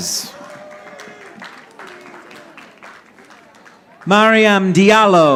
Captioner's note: audience applauding